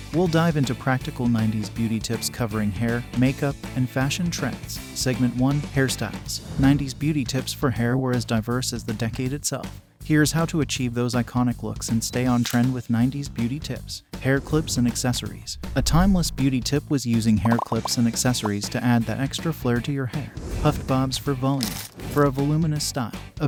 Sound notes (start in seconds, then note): 6.8 voiceover